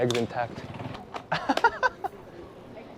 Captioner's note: laughs